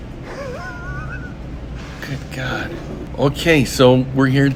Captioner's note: laughs